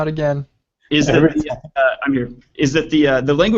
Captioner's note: laughing